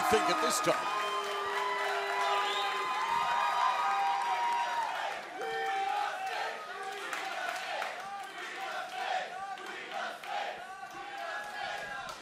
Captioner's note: crowd cheering